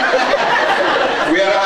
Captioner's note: laughs